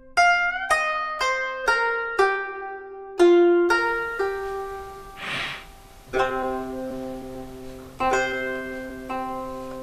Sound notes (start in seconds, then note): 5.1 George sniffs